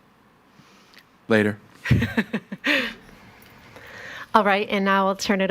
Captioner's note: laughs